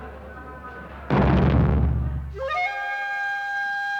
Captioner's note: guns firing; explosions